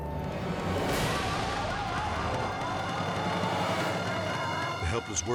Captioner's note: people screaming